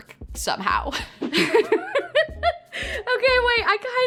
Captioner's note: laughing